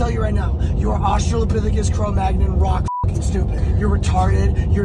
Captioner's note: beeps